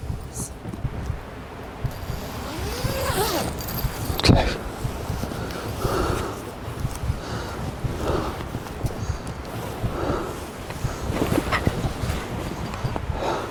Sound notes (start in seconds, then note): 1.9 zipper buzzes; 2.5 nervous breathing